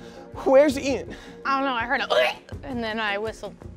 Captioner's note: gags